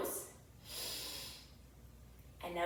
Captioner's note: inhales deeply